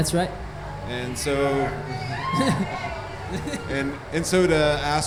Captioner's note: cheering